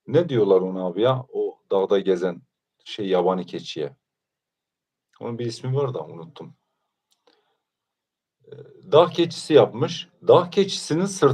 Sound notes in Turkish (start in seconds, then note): none